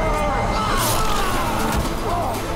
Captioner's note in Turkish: İnilti sesi